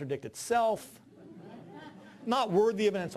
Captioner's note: audience laughing